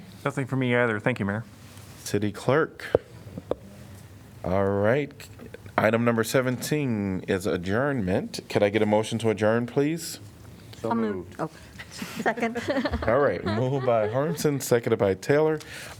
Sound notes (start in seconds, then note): 10.2 laughter